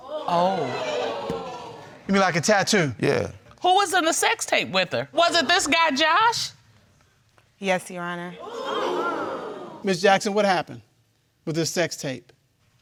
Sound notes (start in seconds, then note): 0.0 audience exclaiming; 8.4 audience exclaims